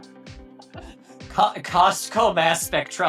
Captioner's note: laughing softly